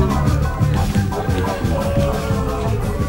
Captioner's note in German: Publikum buht